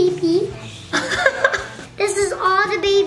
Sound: laughs

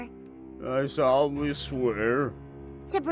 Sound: slurred

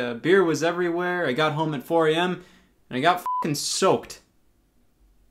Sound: beep

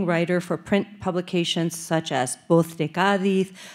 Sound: speaking Spanish

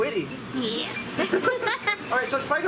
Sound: laughing

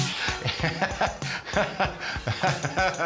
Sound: laughing

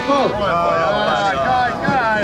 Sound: group groaning

